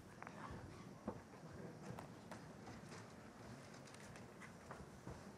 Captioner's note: audience murmuring